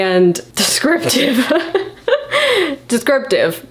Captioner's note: laughs